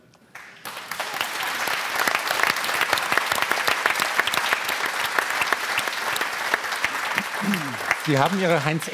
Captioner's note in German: Applaus